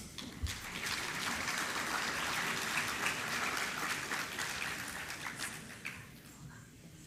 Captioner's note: applause